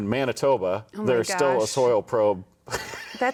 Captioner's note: laughing